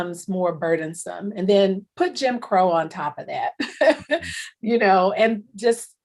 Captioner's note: chuckles